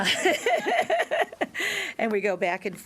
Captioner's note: laughter